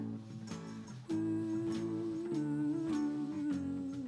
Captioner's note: humming